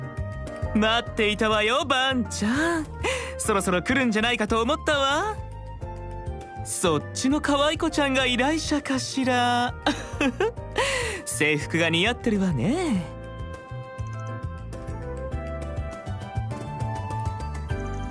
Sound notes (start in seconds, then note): 9.8 giggle